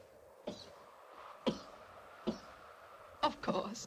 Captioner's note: coughs